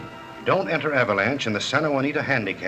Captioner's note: none